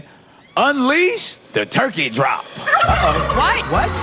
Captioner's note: gobbling